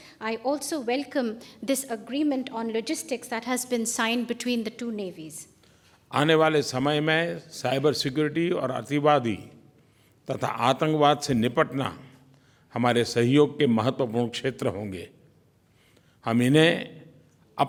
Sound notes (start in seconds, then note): 6.3 PM Modi speaks in Hindi